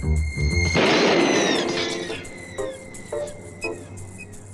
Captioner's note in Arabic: إطلاق نار